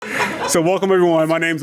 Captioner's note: audience laughing